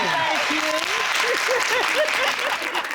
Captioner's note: laughing